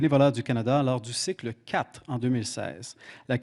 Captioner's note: speaking French